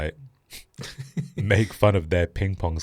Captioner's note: laughs